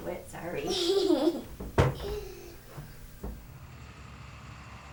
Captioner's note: chuckles